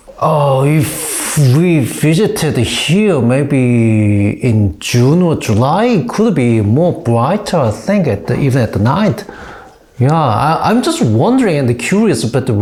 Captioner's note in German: hecheln